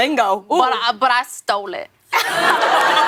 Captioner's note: laughter